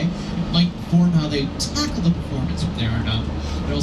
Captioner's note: none